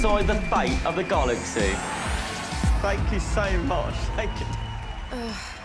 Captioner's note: audience cheering, applauding